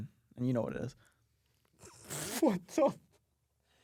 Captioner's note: laughs